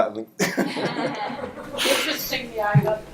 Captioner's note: audience laughs